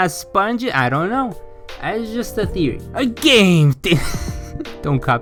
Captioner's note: laughs